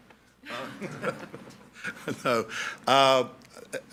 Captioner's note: all laughing